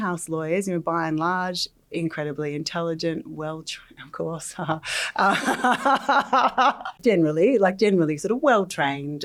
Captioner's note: laughs